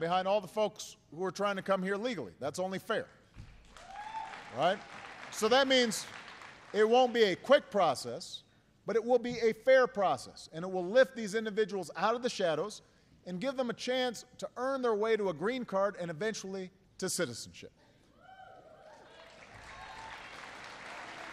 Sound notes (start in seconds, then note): 3.6 applause; 21.1 applause